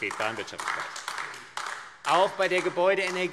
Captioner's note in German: Beifall AfD